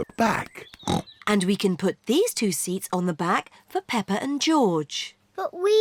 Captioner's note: snorts